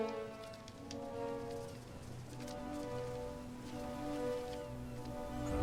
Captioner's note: wings Flapping